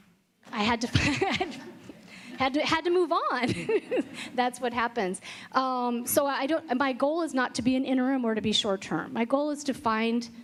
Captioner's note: laughter